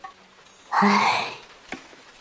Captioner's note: sigh